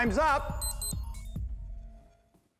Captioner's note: beeping